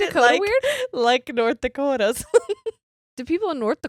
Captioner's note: laughs